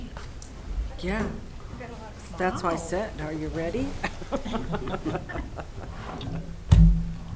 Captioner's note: laughs